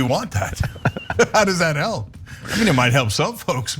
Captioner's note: laugh